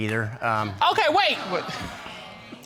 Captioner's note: audience exclaiming